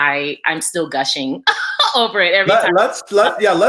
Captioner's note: laughs